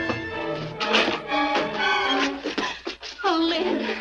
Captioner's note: lock clacks